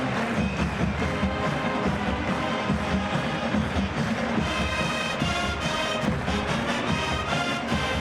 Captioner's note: applause